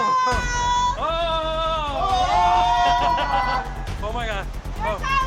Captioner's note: group shouting; laughing